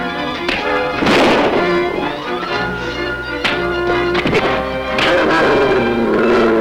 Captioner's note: ominous music; gun bangs; devil growls; desperate orchestral music